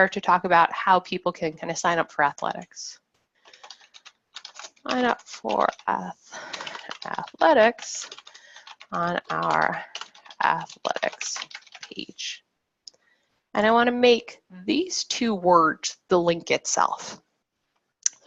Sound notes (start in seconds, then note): 4.3 keyboard keys clacking